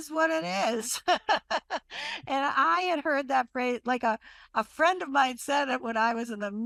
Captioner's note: laughs